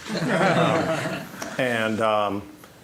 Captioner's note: audience laughing